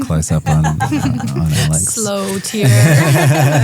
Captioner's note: group laughing